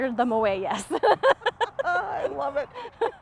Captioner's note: laughs